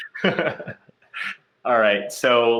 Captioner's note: laughing